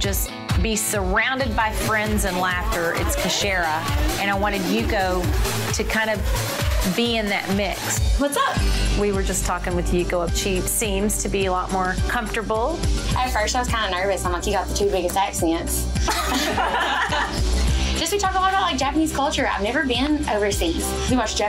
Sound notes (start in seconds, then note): 16.0 all laugh